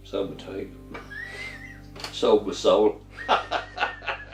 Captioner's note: laughs